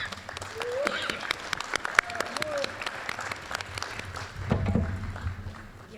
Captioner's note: applause